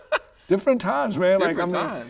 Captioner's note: laughing